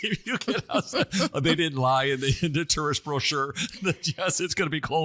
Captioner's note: laugh